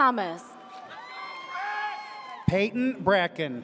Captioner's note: audience cheers